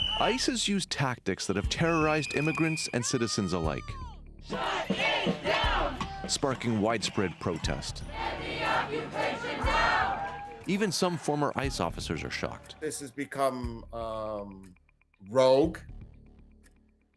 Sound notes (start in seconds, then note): 7.0 chanting